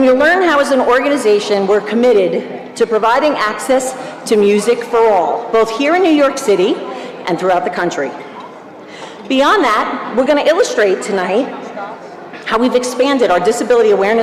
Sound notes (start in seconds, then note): none